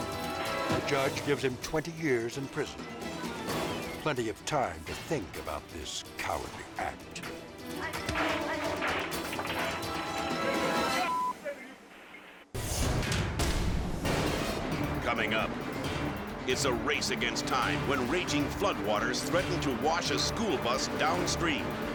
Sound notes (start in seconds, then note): 7.9 merchandise clattering; 10.9 beep